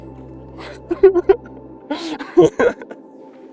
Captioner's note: laughter